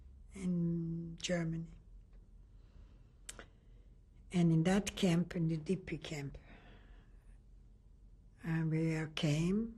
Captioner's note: pauses for 3 seconds